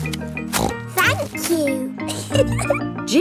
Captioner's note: snorts; giggles